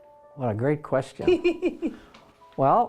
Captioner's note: laughing